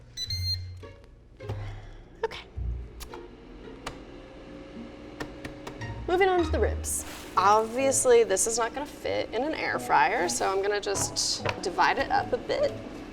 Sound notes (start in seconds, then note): 0.0 airfryer beeps; 5.2 tapping